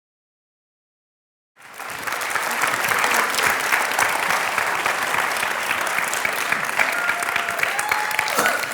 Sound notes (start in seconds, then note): 1.5 applause; 6.6 cheers